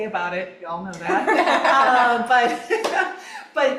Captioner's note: all laughing